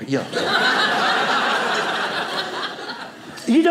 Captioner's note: audience laughing